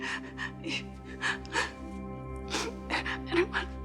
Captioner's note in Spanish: Sollozos